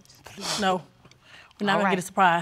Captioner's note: sighs